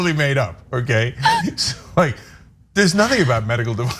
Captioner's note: laugh